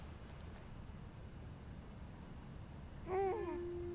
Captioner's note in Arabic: هديل الطفل